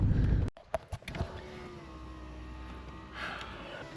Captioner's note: window whirs